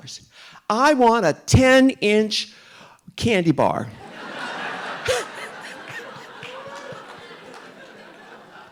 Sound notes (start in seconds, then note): 4.0 audience laughing; 4.1 RuPaul laughs